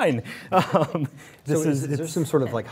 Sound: laughs

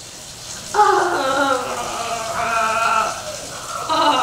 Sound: shuddering sigh

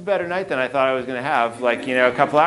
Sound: audience laughing

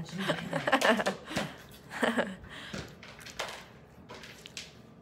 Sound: laughs

